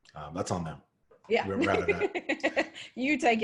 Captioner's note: laughs